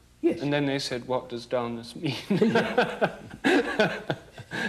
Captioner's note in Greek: γέλια